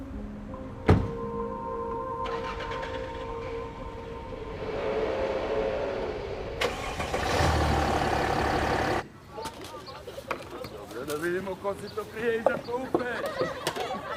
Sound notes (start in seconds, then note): 2.5 engine revving; 7.0 engine revving